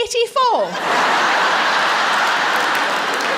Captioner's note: laughter